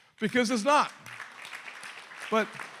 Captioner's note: applause